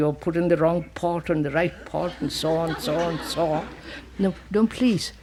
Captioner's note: laughter